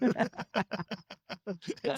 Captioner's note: laughing